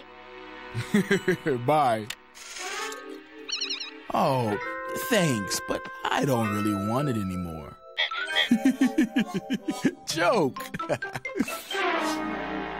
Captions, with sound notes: - BYE. OH, THANKS, BUT I DON'T REALLY WANT IT ANYMORE. [robot beeps] [laughs] JOKE!